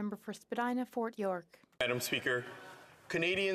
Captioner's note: speaking French